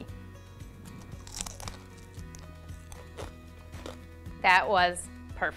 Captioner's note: bacon crunches